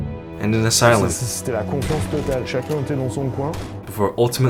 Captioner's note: speaking in foreign language